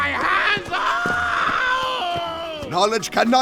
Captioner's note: agonizing scream